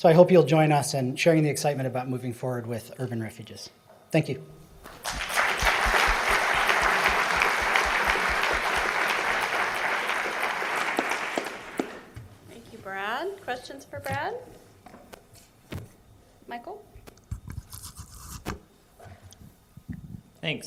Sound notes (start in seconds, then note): 4.8 applause